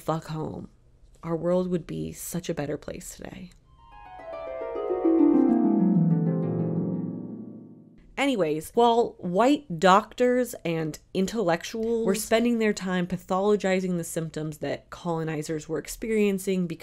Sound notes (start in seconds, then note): 4.0 dream sequence sound